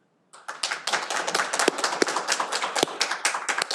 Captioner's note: all applauding